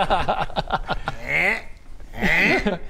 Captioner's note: ergh